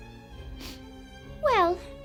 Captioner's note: sniffs